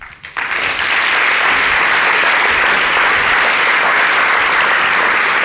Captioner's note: audience applauding